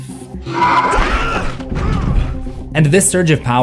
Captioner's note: screaming